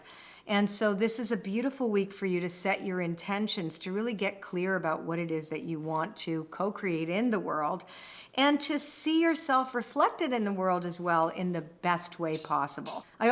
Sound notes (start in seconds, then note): none